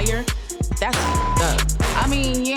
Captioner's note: beep